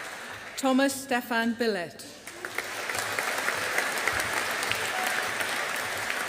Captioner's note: audience applauding